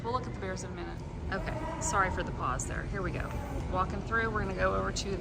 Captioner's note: mumbling and giggling